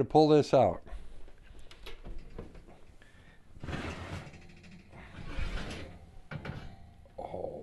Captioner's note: silence